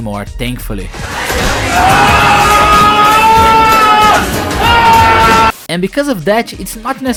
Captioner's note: screams in 90's pop nightmare